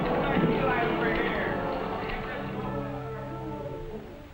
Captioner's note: people on set chatter